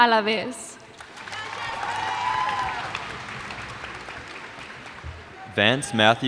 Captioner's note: cheers and applause